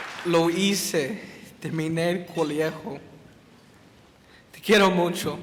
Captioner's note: speaks in foreign language